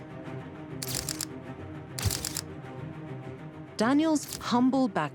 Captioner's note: dramatic music; camera clicking